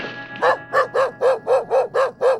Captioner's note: barking